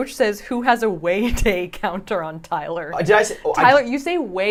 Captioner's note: laughs